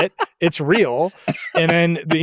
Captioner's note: laughs